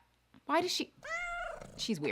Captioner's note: cat meows